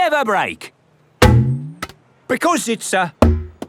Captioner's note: thunks